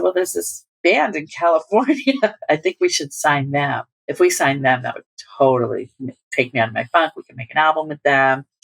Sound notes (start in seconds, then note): 1.9 laughter